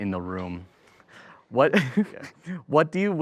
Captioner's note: chuckles